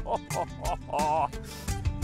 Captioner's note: laughing